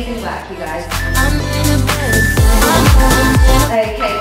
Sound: countdown timer beeping

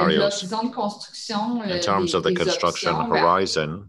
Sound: speaking in French

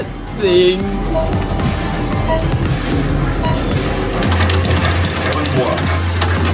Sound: upbeat music; electronic beeping

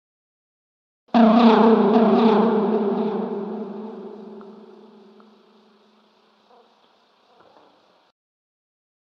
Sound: sound of loud buzz

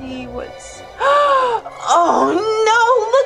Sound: gasps

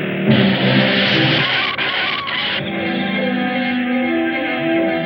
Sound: tires squeal

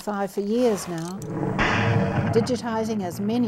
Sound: bang!

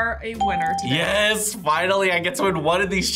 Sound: ding

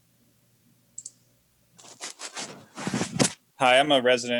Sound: mouse clicks

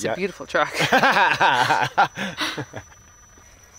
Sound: both laugh

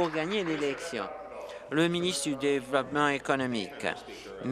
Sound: applause

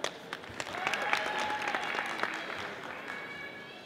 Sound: audience applauding

